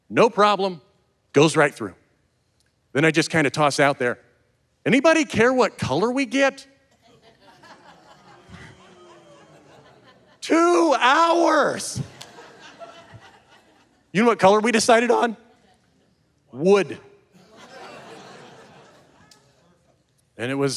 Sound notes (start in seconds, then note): 7.0 audience laughing; 11.9 audience laughing; 17.4 audience laughing; 20.5 chuckles